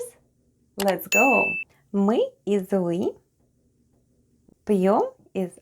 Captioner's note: click and ding sounds